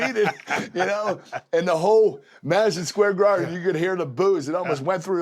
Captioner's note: laugh